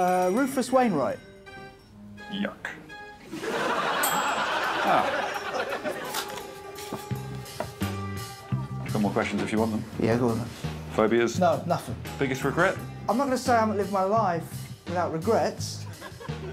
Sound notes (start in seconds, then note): 3.2 crowd laughs; 3.4 microwave dings